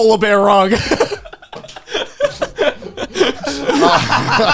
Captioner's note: all laughing